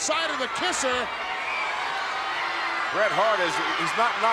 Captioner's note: audience cheering